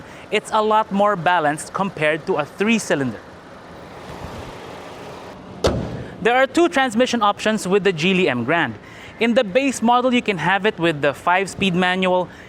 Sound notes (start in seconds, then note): 5.5 hood closes